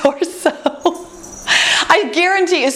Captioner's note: laughs